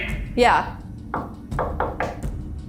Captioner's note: knocking; suspenseful music